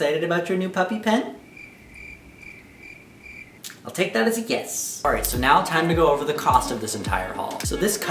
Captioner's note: crickets